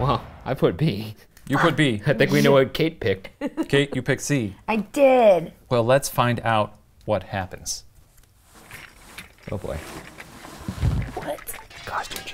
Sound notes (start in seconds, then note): 3.4 laughs